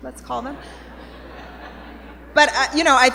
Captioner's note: laughter